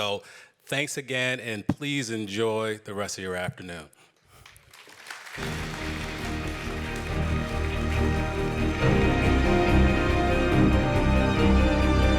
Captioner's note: applause